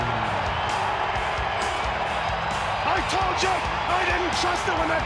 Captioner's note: crowd cheering